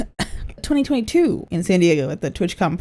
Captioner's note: cough cough